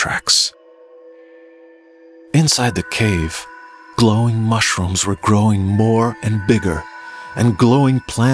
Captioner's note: glowing ambient sound